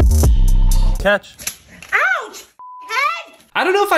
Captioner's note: beep